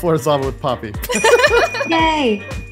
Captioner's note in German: Gelächter